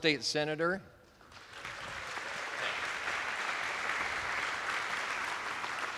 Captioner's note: attendees applauding